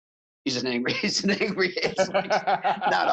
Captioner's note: both laughing